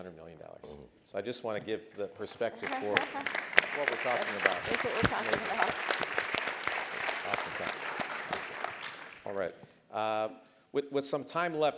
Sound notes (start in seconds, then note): 2.4 laugh; 2.6 applause